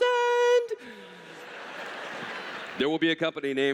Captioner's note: laughter